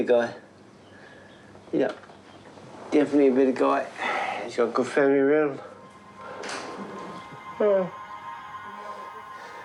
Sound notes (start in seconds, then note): 4.0 sighs